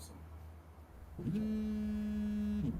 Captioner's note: phone buzzing